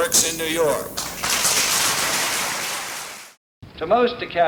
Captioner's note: applause